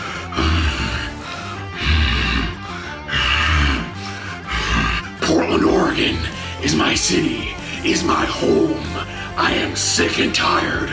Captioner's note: growling